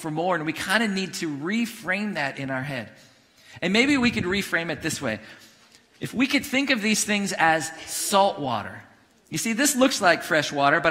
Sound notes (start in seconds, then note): none